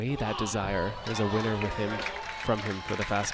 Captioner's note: crowd cheers